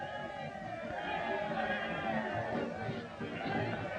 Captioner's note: crowd cheering